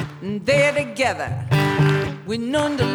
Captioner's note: clap clap; clap clap